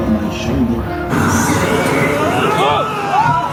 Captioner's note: spooky magical intro music; scareactor grunting